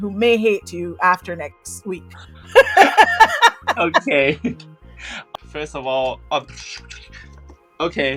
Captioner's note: laughter